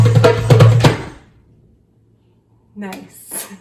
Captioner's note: music stops